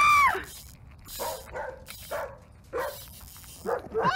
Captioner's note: screams; dog barking; angry dog barking